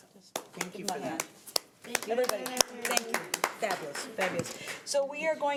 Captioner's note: members applauding